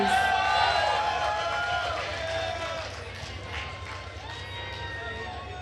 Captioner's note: attendees cheering and applauding